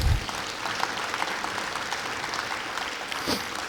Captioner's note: clapping